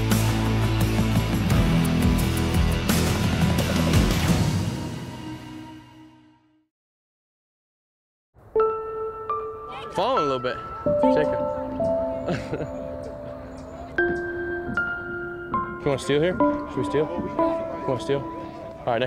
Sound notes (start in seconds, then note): 8.5 delicate music; 10.3 male Voice; 12.0 laughs